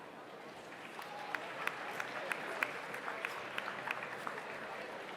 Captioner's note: audience applauds